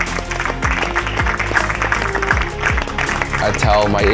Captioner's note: applause